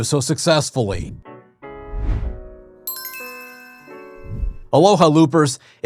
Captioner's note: light music; air whooshing